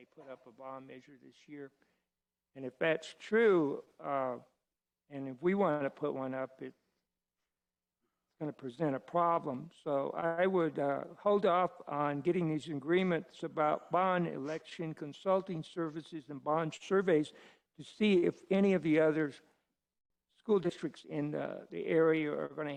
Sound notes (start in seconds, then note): none